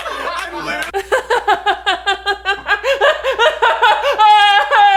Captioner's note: laughing; forced laughing